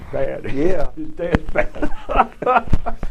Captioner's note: laughter